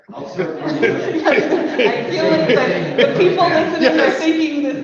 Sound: laughing and talking in unison

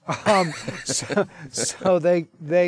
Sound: laughing

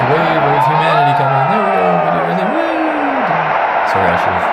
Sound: audience crowds

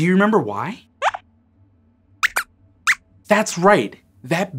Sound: squeaks squeaks

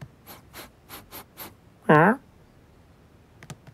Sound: sniffs

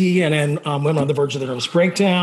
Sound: none

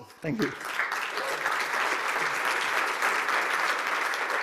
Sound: cheering and applause

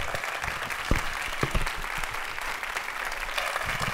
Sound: applause

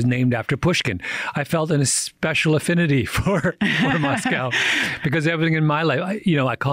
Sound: chuckles

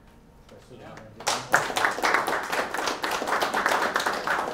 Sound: applause

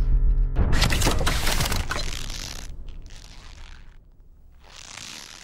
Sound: noose neck snapping sound

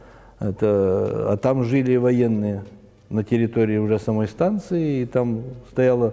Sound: russian

